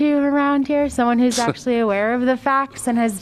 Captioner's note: laughter